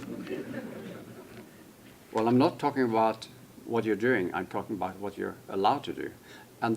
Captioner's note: laughter